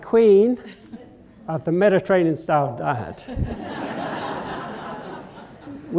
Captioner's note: laughter